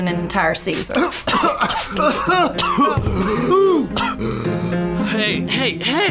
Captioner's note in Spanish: Tosiendo